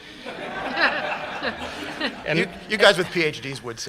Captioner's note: laughter